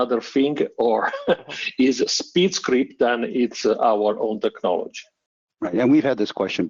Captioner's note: laughs